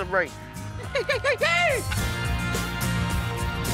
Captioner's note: yelling